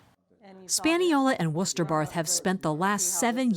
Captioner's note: voice-over